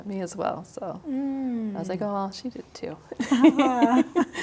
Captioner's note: both laughing